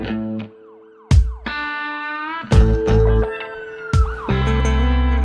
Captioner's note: sirens blaring